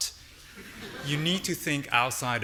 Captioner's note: audience laughing